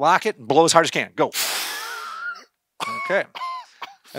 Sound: blows heavily; coughs

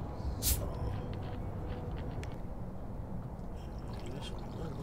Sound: soda fizzes; soda glugs

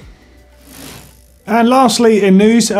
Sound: bike chain whirring

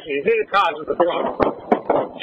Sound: pop

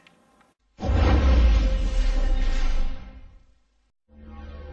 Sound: epic whooshing sounds

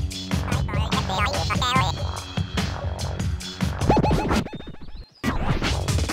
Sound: dark, intense music; garbled, electronic tones; music intensifies

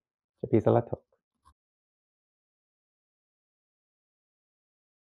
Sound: speaking in foreign language

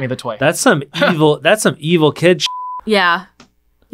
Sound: beep

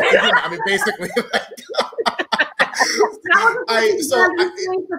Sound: all laughing

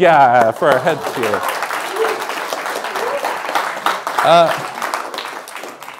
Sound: applause

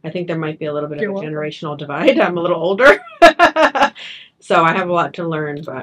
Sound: chuckles

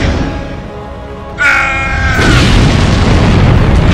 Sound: screaming

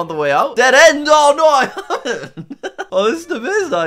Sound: laughs

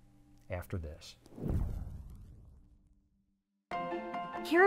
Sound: transition whooshing; cheerful piano music

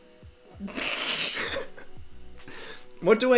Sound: laughter

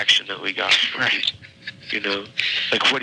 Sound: chuckles

